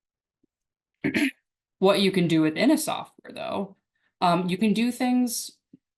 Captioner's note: clears throat